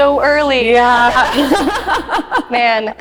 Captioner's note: laughing